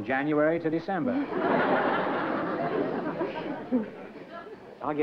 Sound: laughter

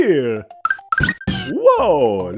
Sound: Yoshi squeaks

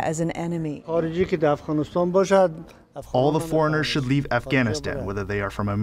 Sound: through translator

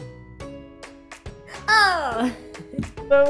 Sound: laughs

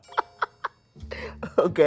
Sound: laughs

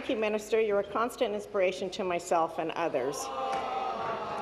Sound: applause

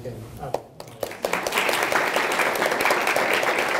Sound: audience clapping

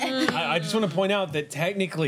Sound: laughter

